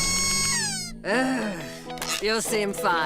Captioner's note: loud squeak; sighs